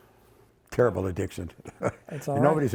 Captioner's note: chuckles